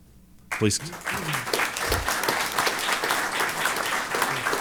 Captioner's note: applause